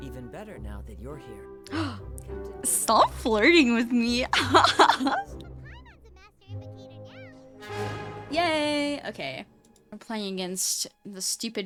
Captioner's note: gasp